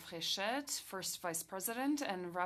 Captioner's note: speaking French